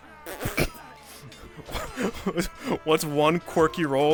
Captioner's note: laughing